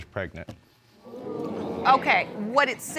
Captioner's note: audience exclaims